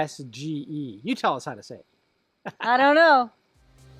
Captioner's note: laughing